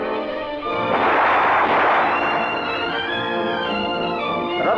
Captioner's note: soldier yelling in Russian; gun blasting; soldier yelling in Russian